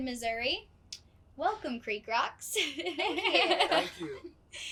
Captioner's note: laughs